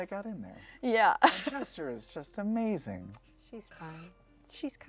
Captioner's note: laughs